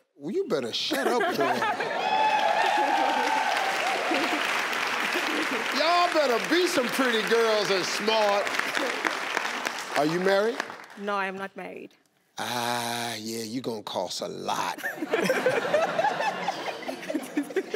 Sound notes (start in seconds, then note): 1.4 audience cheering; 14.7 family laughing